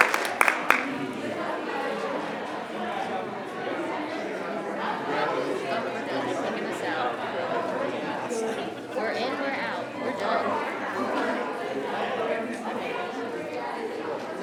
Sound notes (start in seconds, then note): 1.7 people murmuring